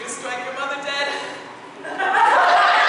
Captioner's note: APOLLO chuckles